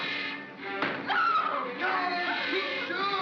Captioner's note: Barnaby growls; ominous music; bang; Bo Peep yelps; Barnaby growls